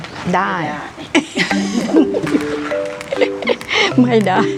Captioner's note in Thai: เสียงหัวเราะ